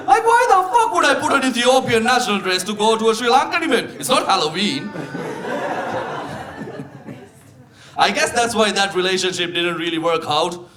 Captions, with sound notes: Like, why the fuck would I put an Ethiopian national dress to go to a Sri Lankan event? It's not Halloween. (audience laughing) I guess that's why that relationship didn't really work out